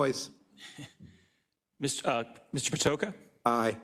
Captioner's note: laugh